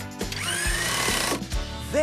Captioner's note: drill Whirs